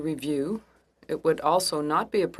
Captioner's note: speaking French